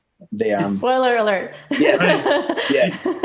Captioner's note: laughs loudly